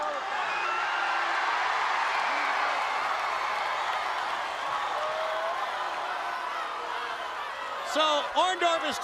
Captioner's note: crowd cheering